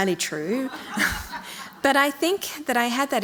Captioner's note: audience laughing